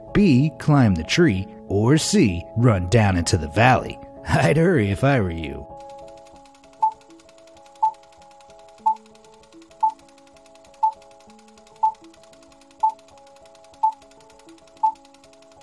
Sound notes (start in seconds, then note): 5.8 movie reel spinning and beeps